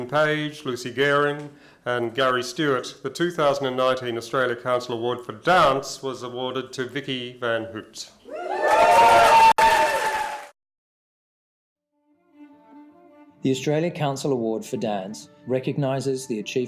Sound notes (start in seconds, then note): 8.2 cheering and applause